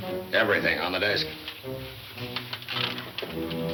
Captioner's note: shuffling